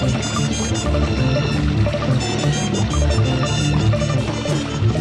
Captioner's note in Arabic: رشات الماء